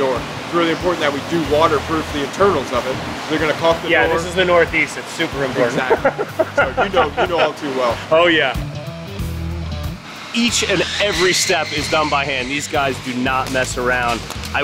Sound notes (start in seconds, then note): 5.5 laughing